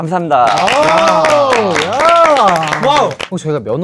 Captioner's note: loud cheers